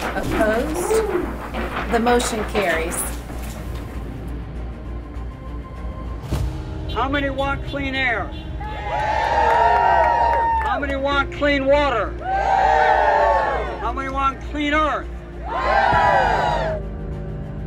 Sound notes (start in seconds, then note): 8.6 cheers; 13.0 cheers; 16.6 cheers